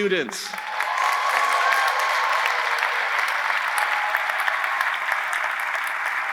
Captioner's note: audience applauding; audience cheering